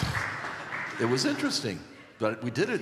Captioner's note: applause